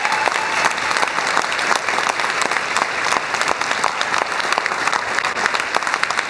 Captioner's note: cheers and applause